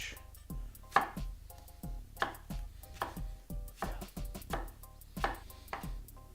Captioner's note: mellow music; banging